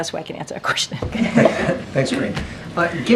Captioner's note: laughter